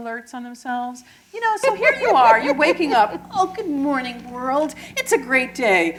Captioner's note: laughter